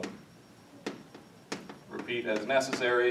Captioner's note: chalk tapping